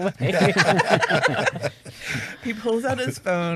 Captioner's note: all chuckle